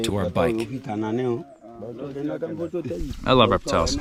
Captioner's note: men speaking foreign language